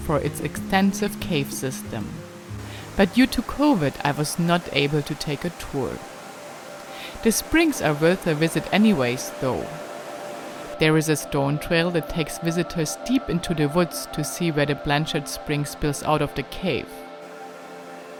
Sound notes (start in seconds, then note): 5.8 slow music; 6.6 water flowing; 17.9 slow music continues